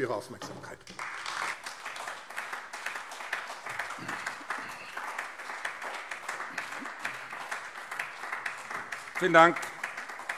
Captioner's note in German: Beifall AfD